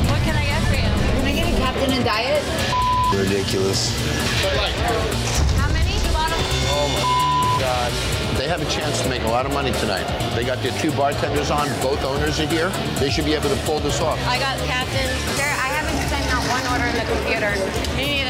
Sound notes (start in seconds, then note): 2.6 beeping; 4.9 tense music playing; 6.2 beeping